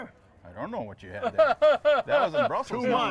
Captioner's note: laughs